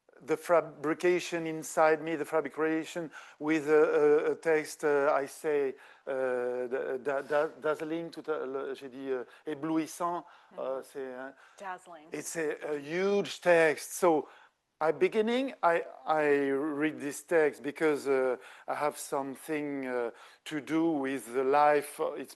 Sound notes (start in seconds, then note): 5.8 speaking French